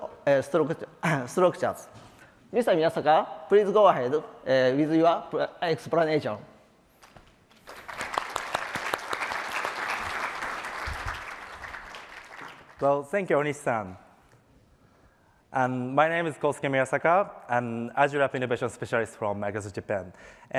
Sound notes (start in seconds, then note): 7.5 applause; 14.3 non-English